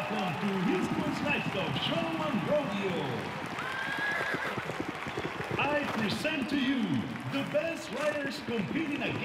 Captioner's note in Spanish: trote de caballos